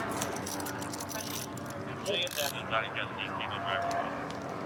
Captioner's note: dispatch chatter